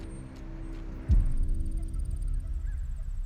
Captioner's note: crickets chirring; birds cawing